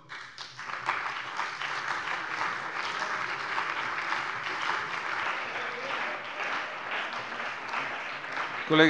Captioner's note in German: Beifall bei der CDU und dem BÜNDNIS 90/DIE GRÜNEN